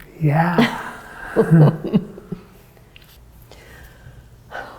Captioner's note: laughs